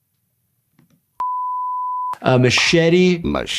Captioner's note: beep